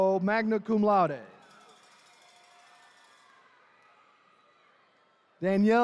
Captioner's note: attendees cheering